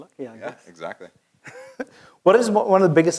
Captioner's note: laugh